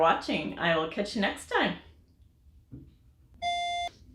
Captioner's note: auditory beep